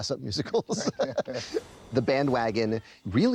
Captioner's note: laughs